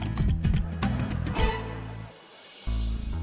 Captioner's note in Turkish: Gülme efekti